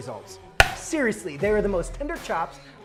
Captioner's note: meat clunking